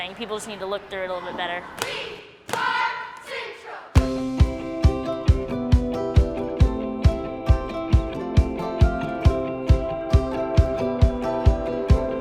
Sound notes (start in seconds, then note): 2.1 cheerleaders cheering; 3.9 upbeat music